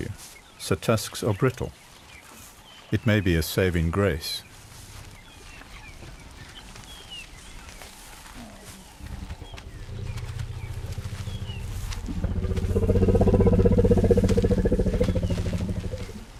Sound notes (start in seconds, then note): 5.0 birds chirping; 8.6 animals calling; 9.2 rumbling